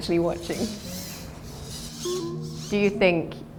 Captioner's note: robots whirring